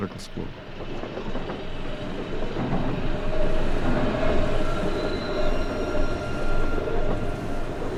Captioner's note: subway clacking